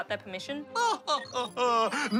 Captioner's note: laughs